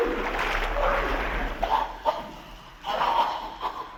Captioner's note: gasps; coughing